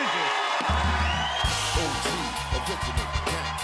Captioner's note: cheers and applause